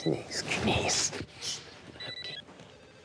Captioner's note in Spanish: suena el celular; suena el celular